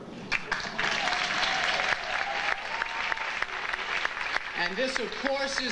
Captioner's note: audience applauding